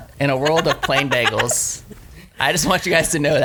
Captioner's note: laughs